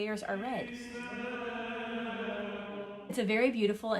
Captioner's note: chanting